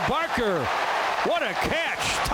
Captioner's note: crowd cheering